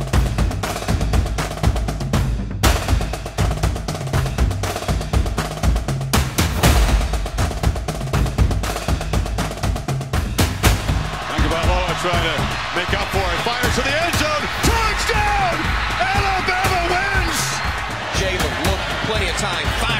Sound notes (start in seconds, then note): 15.3 crowd cheers